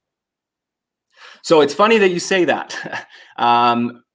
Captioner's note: laughs